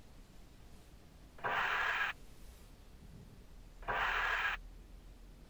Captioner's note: scraper swooshing